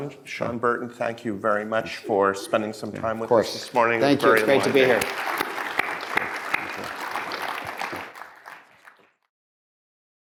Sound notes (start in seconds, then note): 6.0 audience clapping